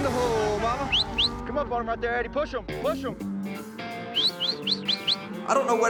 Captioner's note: whistling